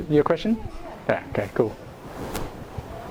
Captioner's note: voiceover